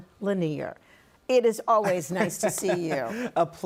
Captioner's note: laughs